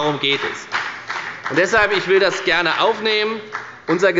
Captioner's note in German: Beifall bei der FDP